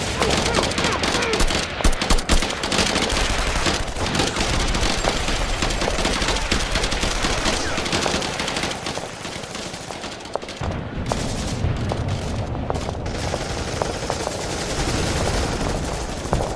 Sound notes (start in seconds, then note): 0.0 guns blasting; 0.0 troopers grunting; 10.6 guns blasting; 10.6 rocks thudding